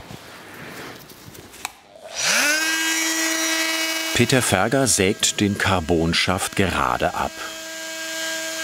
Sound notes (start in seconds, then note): 2.0 loud whirring